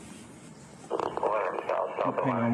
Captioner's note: radio chatter